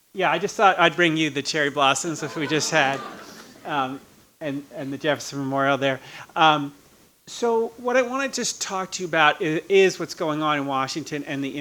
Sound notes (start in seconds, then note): 2.0 audience laughing